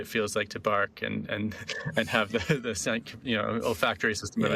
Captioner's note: laughing